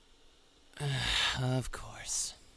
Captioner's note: kyon sighs indeed he does